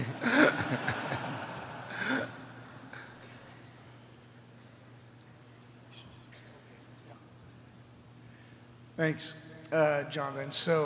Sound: laughter

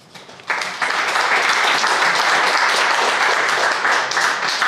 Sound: crowd applauding

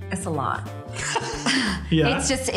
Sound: laughter

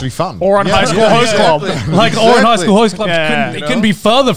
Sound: group chattering

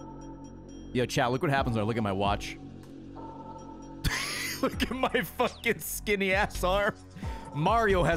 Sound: laughs

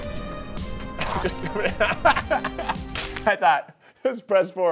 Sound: laughs

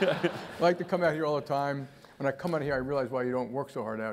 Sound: laugh

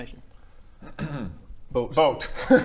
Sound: ahem

